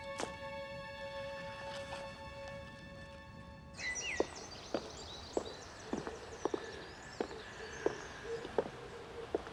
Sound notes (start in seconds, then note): 3.7 birds singing; 4.0 approaching footsteps